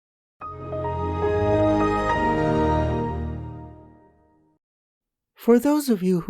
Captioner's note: Windows XP start up chime